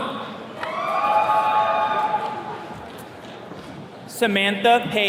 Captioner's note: attendees cheering